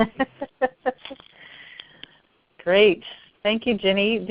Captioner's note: laugh